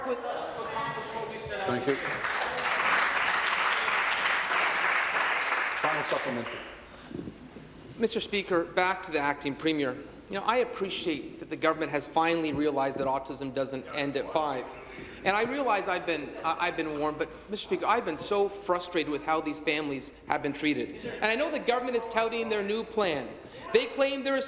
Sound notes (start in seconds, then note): 5.8 applause